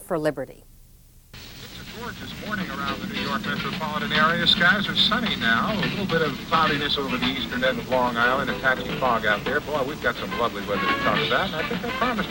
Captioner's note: radio announcer & music